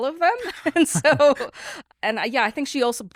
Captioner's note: laughs